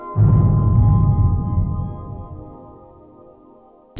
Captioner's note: whooshing